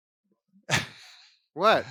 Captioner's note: laughs